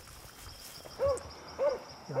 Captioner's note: insects chirping; dog barking